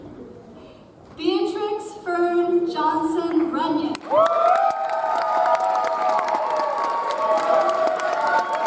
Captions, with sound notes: Beatrix Fern Johnson Runion. (audience applauds)